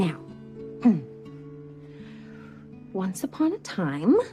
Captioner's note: clears throat